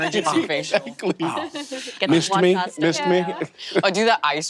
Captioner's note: laughs